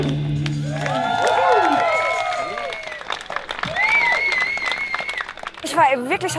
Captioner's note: applause